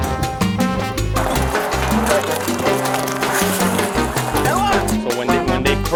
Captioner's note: inaudible yelling